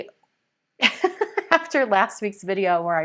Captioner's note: laughs